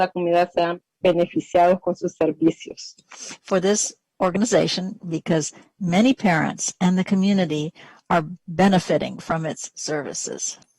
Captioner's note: speaking spanish